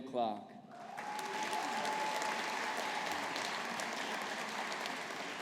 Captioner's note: audience applauding